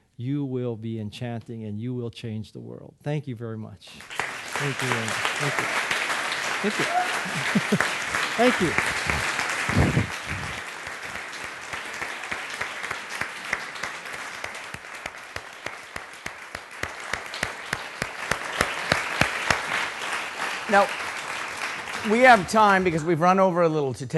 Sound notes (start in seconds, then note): 4.1 audience applauding; 6.7 laughing; 9.3 audience applauding